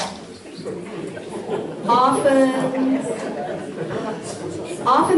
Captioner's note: audience laughs